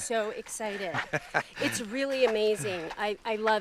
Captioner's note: laughing